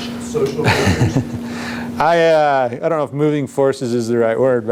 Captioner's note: chuckles